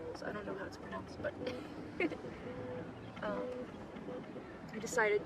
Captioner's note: giggles